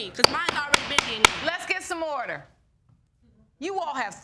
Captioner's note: gavel pounding